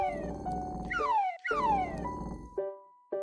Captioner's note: food whistling and sliding